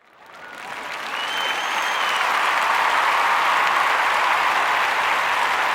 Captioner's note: people applauding and cheering